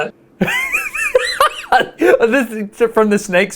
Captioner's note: laughs